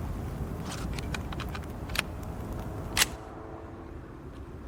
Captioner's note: gun clicking